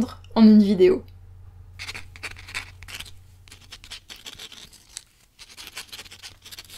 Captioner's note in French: Bruit de plume qui gratte sur le papier